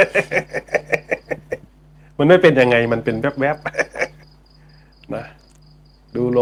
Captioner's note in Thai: เสียงหัวเราะ